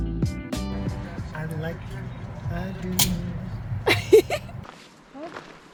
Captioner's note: laughing